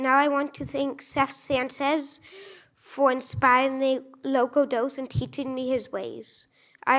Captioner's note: none